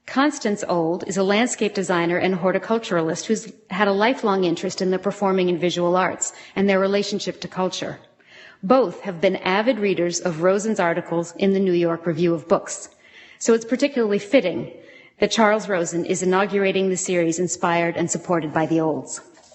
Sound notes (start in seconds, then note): none